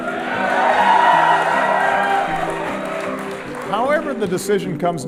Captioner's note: crowd cheers